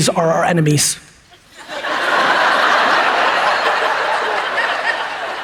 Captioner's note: audience laughs